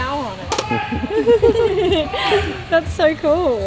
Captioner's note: laughing